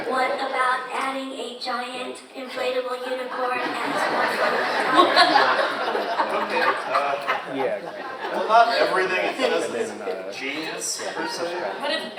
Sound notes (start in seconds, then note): 3.0 audience laughs